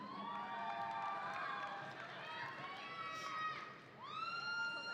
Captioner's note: audience applauding